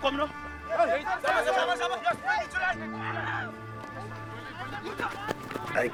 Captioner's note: shouting in afrikaans